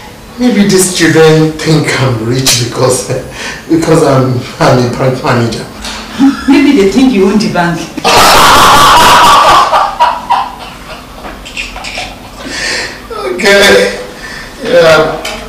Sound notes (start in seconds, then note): 7.9 laughing